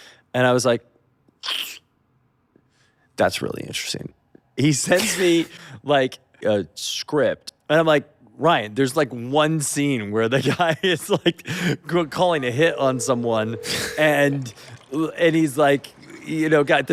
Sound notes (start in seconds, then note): 12.3 phone ringing